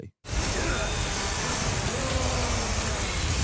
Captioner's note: chainsaw whirring; Leon grunting; chainsaw whirring; ganado growling